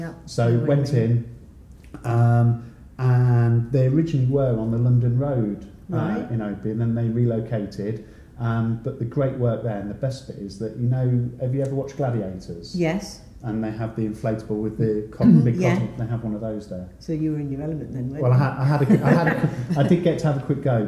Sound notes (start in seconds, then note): 18.3 laughs